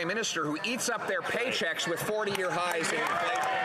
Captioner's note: some Applause